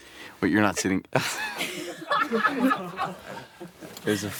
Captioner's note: laughter